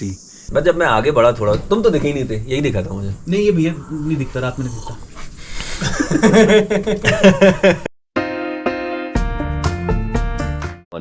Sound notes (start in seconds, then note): 5.8 everyone laughs; 8.2 intro music